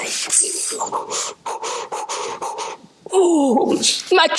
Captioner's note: breathing heavily